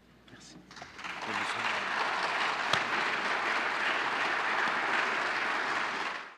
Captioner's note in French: Applaudissements